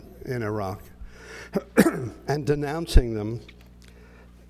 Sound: cough

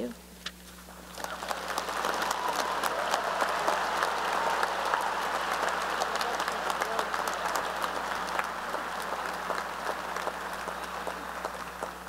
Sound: applause and cheering

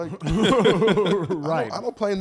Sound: gentlemen laughs

